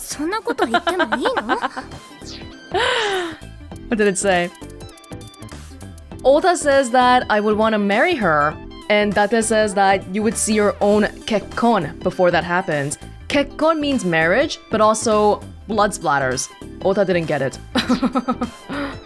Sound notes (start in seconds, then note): 0.5 chuckles; 2.6 exhales; 17.7 chuckles